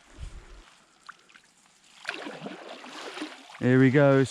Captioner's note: water swishes